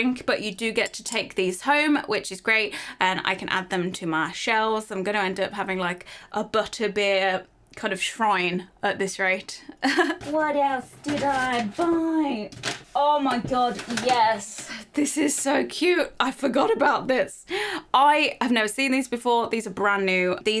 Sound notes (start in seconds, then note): 9.8 chuckles